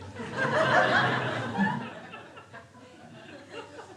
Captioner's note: crowd laughs